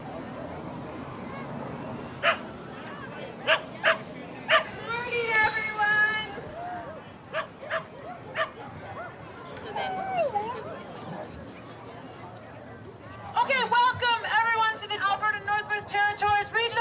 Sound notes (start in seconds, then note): 2.3 dog barking